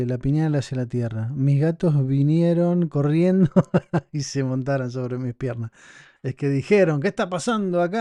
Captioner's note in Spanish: risas